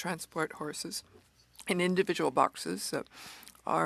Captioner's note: speaking French